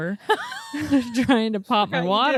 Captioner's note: laughs